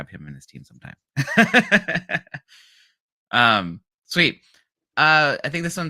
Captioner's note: laughs